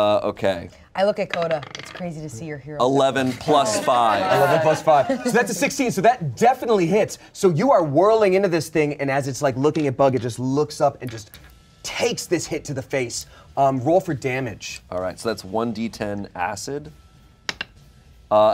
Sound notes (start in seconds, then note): 4.0 everyone laughs